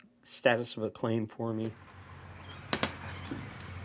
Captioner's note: screen door opening